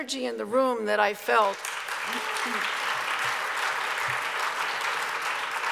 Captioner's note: audience applauds